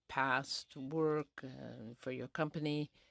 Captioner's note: speaking in french